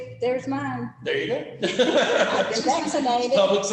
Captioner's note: laughter